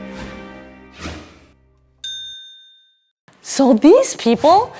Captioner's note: dinging bell